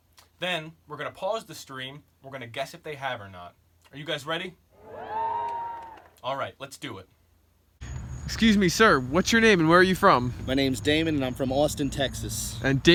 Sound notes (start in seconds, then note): 4.8 audience cheers